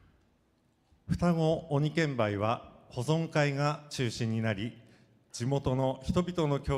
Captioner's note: speaking foreign language